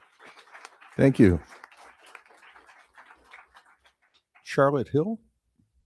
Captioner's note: crowd applauding